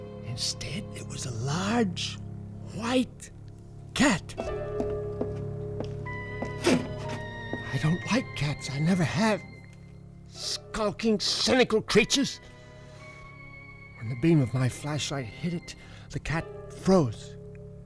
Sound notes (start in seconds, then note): 4.3 footsteps approaching